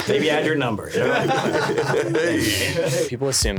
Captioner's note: everyone laughing